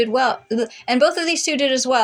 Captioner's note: blubber